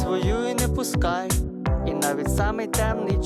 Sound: none

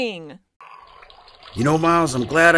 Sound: urine trickling

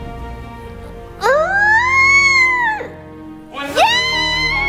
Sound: screaming

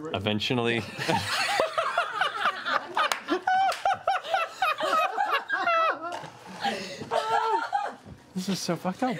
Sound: laughter

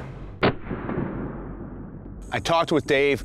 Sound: whooshing; muffled gunshot

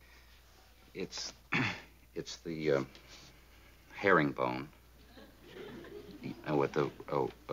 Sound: clears throat

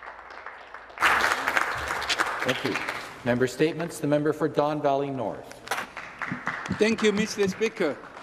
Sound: some Applause

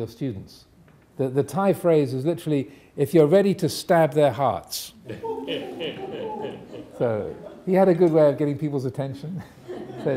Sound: audience laughing

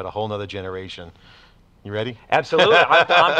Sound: laughs

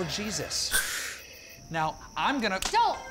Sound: creature hissing

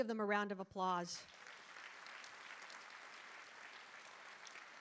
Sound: audience applauding

